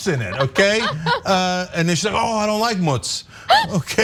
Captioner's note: laugh